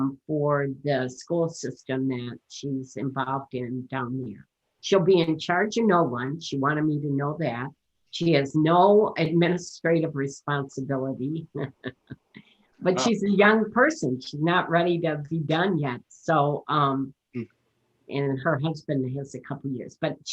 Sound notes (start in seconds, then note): 12.9 laughing